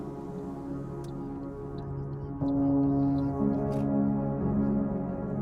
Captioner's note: turn signal of a car